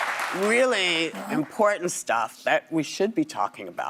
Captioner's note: applause